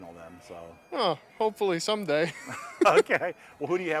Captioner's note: both laughing